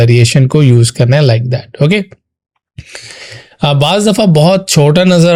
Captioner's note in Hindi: नाक से की जाने वाली आवाज़